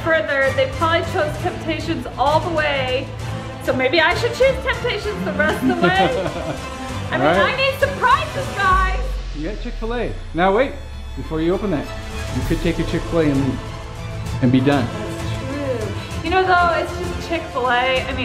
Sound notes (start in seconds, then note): 5.6 dad chuckles